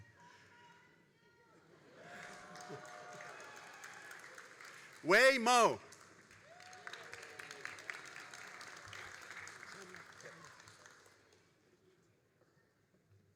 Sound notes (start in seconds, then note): 6.7 all applauding